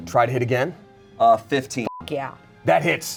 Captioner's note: beep